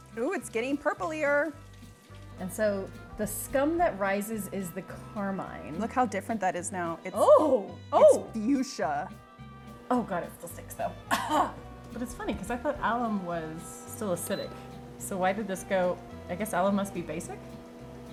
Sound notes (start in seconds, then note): 11.0 coughs